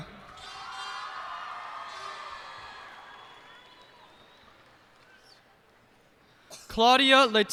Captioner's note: cheers and applause